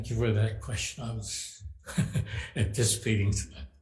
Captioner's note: laughing